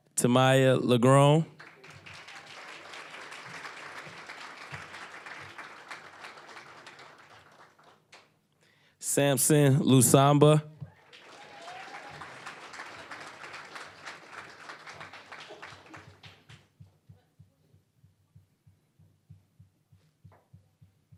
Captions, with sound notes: Tamiayah LaGrone. (applause) Samson Lusamba. (applause)